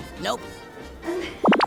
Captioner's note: laughs